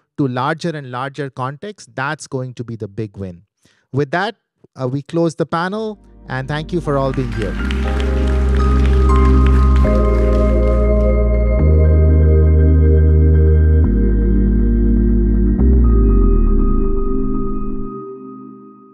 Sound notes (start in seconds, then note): 6.6 audience clapping; 7.6 atmospheric music